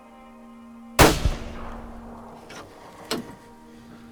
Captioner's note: gunshot